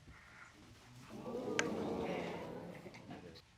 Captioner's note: audience exclaim